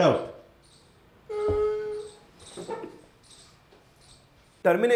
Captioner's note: weeping